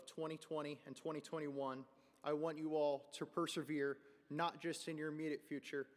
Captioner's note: none